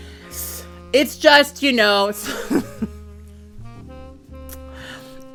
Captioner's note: chuckles